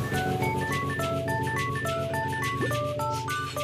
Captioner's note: sniffs